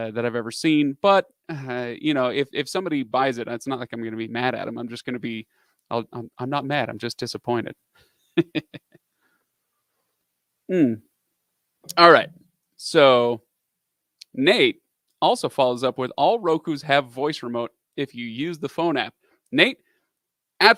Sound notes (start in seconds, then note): 8.4 laughs